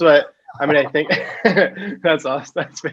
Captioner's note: laugh